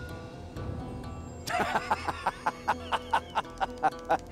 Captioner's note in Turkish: Gülme sesi